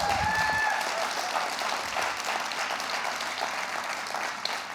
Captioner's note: audience cheering